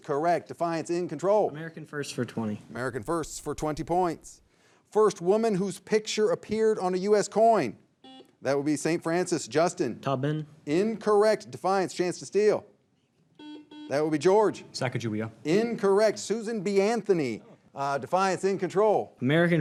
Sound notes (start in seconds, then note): 8.0 signal beeps; 13.4 signal beeps